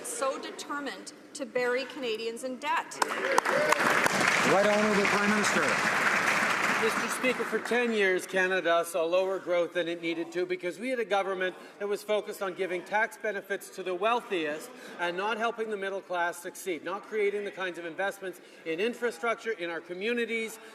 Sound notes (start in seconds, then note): 6.7 some Applause